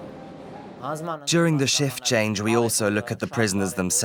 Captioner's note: voiceover